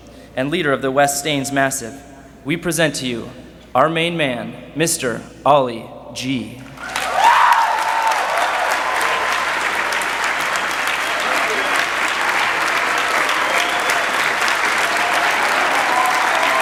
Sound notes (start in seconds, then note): 6.3 cheering, applause; 12.3 cheering, applause